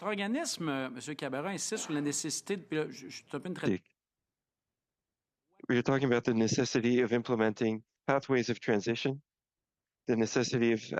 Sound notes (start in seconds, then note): 4.4 speaking French